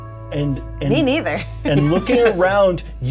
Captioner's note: chuckles